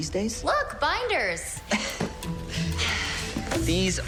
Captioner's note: laughing